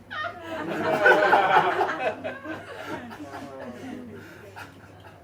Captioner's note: audience laughs